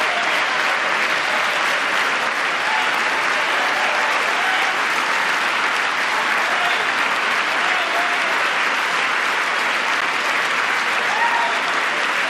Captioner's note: applause